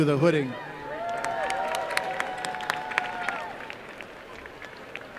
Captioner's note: applause